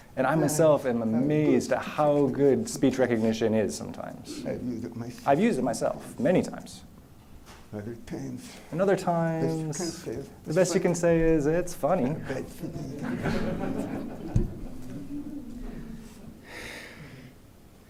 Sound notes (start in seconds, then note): 12.6 laughter